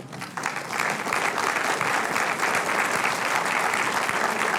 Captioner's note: audience applauds